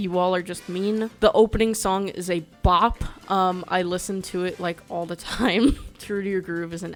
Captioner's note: laughs